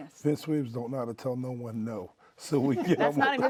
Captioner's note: laughs